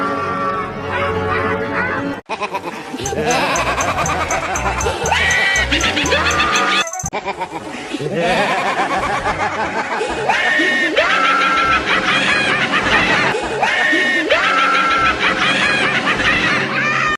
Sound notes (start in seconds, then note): 0.0 evil laugh; 2.3 Mupa, Puma, and Sonya laugh evil